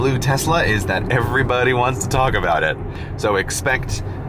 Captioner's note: with a smile in his voice